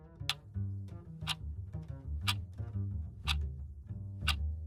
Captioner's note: clock ticking